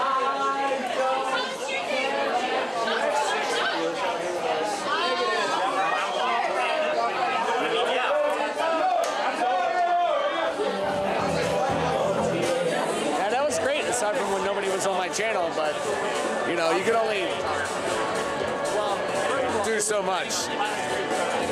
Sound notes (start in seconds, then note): 0.2 patron singing; 3.7 crowd partying intensifies